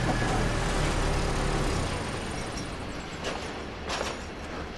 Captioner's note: engine switched off